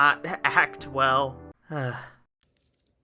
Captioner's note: sighs